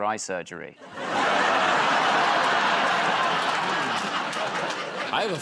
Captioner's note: laughter